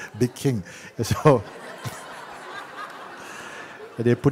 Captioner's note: laughter